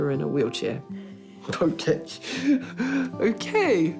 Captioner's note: laughs